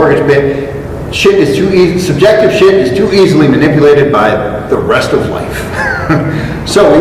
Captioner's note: chuckle